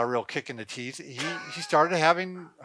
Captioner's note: laughing